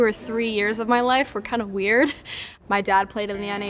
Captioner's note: laughs